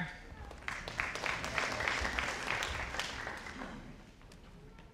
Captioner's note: audience applauding